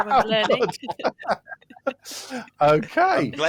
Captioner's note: laughter